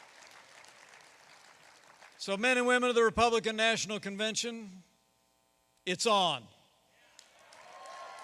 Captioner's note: applause